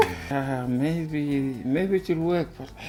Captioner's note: laughs